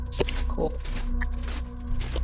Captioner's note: palms thudding rhythmically